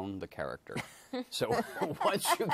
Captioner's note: chuckling